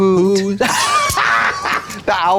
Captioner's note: Trixie caws